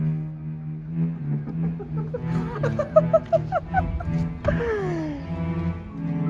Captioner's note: Black Jack Laughs